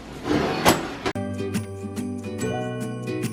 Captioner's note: closing door; cheerful music